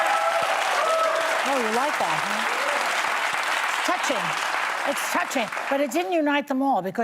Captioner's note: applause